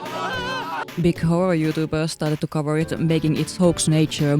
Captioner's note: some dudes screaming at the website in horror